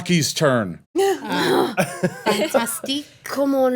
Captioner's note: everyone groans